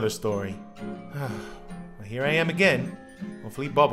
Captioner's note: sighs